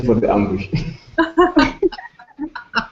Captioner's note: laughter